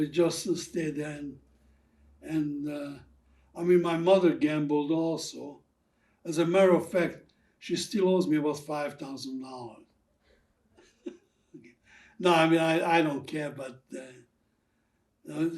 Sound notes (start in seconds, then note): 10.8 laughing